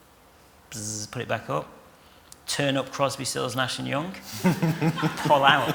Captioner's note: laughter